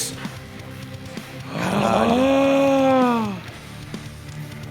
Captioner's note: surprised sound